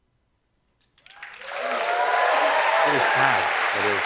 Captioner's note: cheers and applause